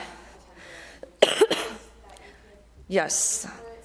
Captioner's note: coughing